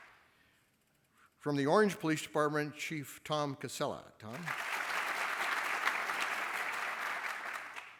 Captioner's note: applause; applause